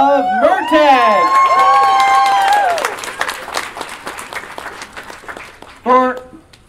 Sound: audience Applause and Chearing

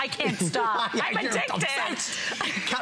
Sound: laughter

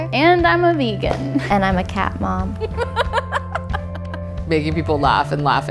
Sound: laughs

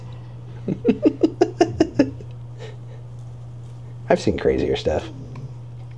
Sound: laughing

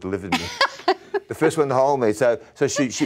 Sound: laughs

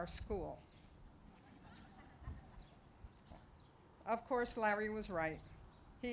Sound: laughter

